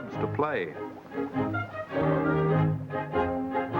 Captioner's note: bubbling